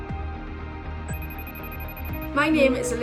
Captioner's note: phone rings